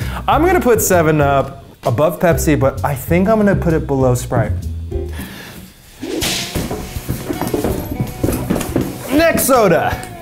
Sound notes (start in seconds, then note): 6.0 whip snapping